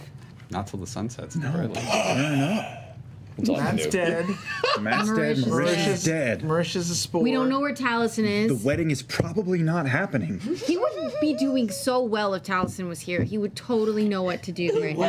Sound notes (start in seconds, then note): 1.8 gasps